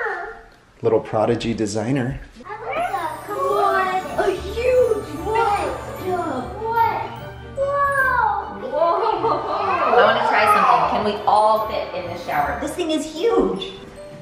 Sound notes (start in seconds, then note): 2.5 children exclaim